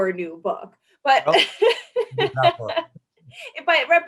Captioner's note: laughs